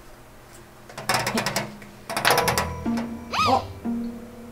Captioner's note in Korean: 드르륵